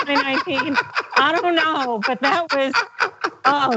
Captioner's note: laugh